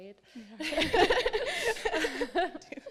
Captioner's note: laughter